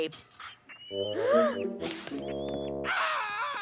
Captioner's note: laughter